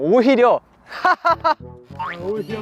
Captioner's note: laugh heartily like this